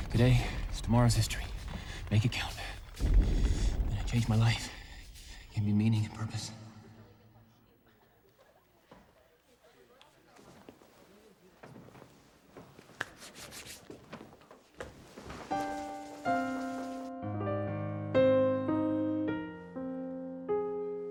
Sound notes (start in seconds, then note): 9.9 students murmuring; 12.8 hands brushing; 15.4 gentle piano music